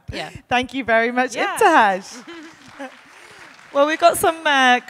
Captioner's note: audience applauding